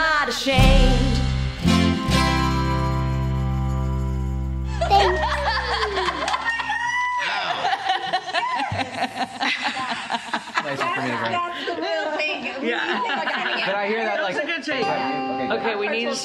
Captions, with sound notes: And we are not ashamed Thanks. [Laughter] [Joyous Chatter]